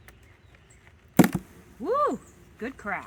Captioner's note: box cracking